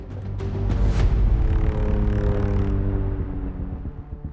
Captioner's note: airplane engines roaring